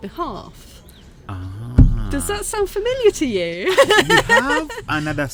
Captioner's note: laughing